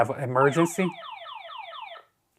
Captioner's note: alarm beeping